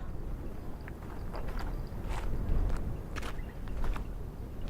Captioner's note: footsteps approaching